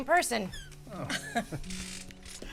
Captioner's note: chuckling